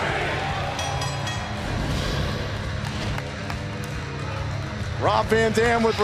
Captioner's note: bell ringing